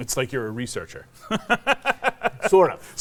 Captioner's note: laughs